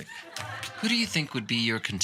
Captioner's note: audience chuckling